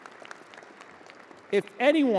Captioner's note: audience applauding